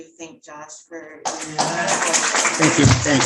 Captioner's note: audience clapping